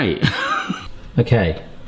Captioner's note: laughs